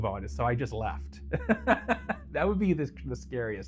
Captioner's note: laughs